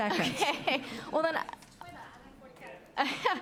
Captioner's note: off mike